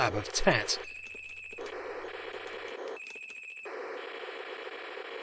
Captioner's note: beeping and stuff